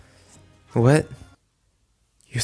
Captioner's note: background music stops